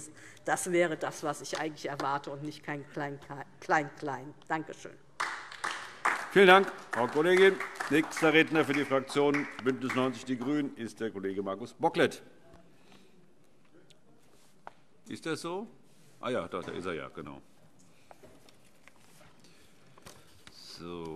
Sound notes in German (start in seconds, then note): 5.2 Beifall DIE LINKE